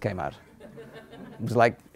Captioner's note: laughter